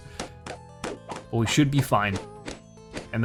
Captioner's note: balloons popping